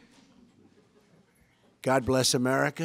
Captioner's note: laughter